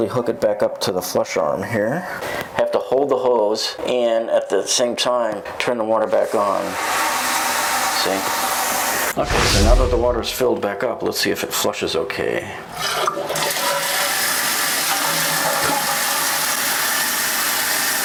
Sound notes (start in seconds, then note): 6.6 water running sounds; 15.2 flushing sound